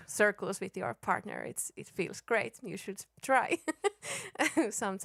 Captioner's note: laughs